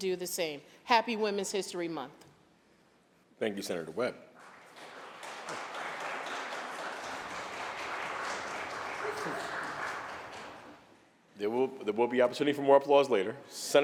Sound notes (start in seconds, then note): 4.3 applause